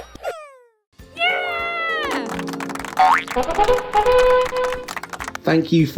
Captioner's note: audience clapping